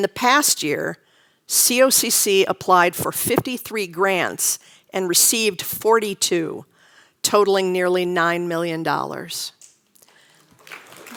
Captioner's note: applause